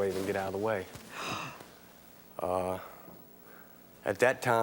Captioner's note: audience gasps